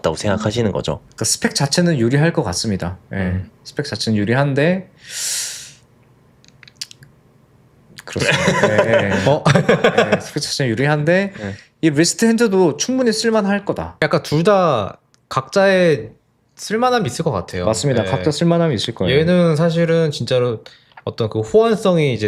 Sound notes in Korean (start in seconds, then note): 5.0 헉 소리; 8.2 웃음